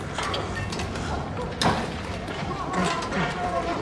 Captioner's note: grunting